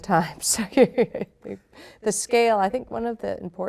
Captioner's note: laughing